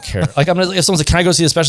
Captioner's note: laughs